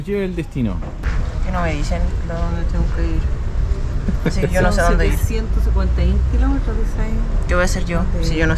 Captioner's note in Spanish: Abuela hablando atrás